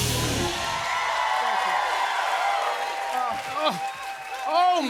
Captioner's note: cheers and applause